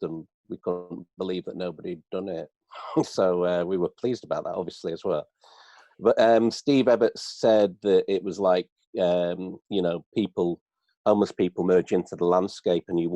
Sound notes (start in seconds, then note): 2.8 laughs